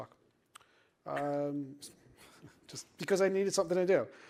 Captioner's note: laughter